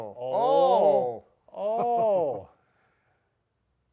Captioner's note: chuckles